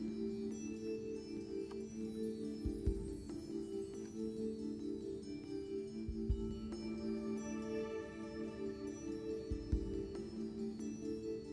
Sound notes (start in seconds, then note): none